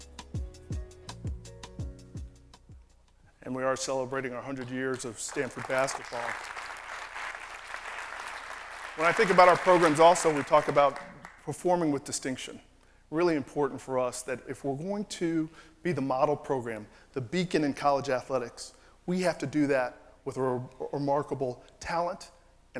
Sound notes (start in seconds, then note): 6.1 applause